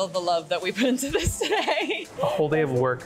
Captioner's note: laughing